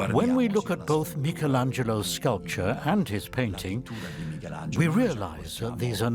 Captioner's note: in Italian